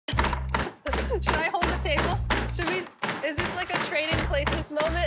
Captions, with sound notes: [POUNDING] Should I hold the table? Should we-- is this like a trading places moment?